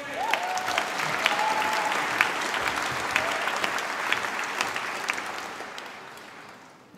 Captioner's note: applause